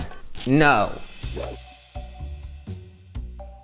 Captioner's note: inquisitive music; whoosh